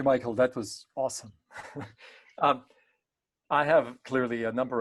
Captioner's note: chuckles